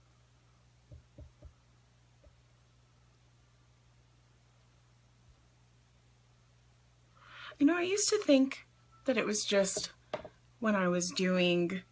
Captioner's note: inhales